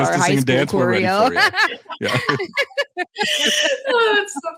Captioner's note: group laughs